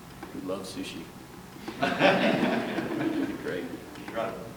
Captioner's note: laughter